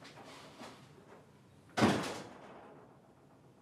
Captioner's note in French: Porte qui se referme